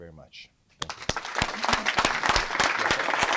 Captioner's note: applause